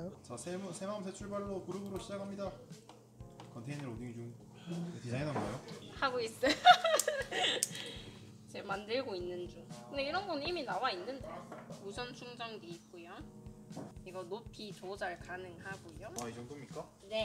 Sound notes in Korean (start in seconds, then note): 6.4 웃음